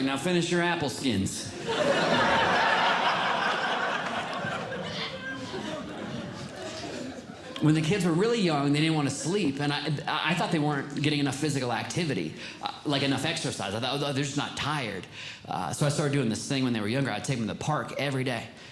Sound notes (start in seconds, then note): 1.5 audience Laughing